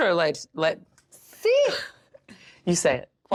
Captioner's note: laughs